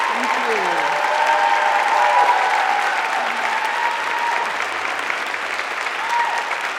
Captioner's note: audience cheering and applauding